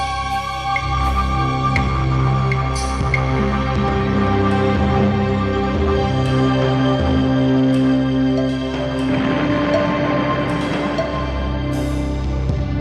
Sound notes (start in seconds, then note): 9.2 explosion booming